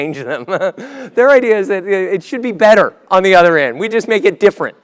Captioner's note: laugh